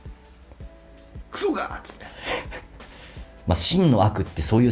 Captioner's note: laughs